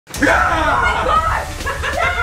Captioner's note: yelling; laughing